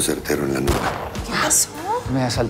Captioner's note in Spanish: Disparo